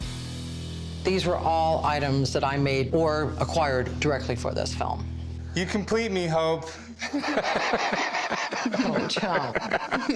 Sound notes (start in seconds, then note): 7.0 laughter